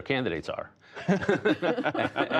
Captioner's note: laughter